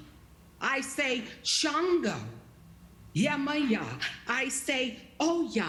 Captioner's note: non-english speech; non-english speech